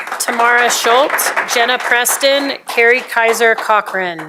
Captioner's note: applause